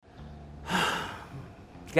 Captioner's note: sigh